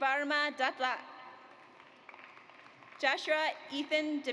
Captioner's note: audience applauds